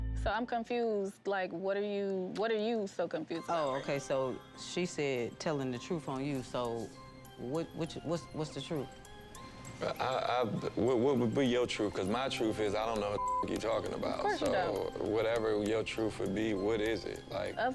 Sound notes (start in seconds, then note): 10.4 stutters; 13.1 beep